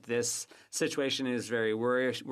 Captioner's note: speaking French